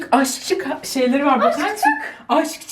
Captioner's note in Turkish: gülüyor